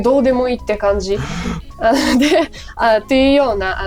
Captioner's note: a gasp of terror